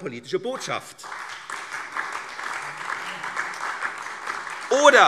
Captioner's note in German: Beifall SPD und vereinzelt DIE LINKE